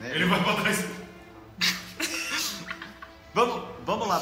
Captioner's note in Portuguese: Risadas